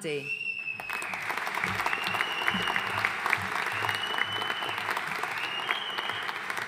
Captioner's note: audience cheering and applauding